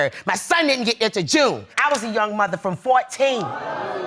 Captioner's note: audience gasping